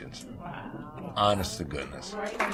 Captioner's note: applause